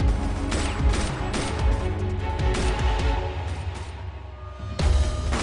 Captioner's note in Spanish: Disparos